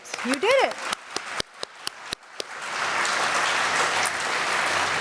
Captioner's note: applause